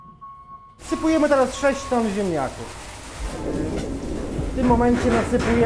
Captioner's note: speaking in Polish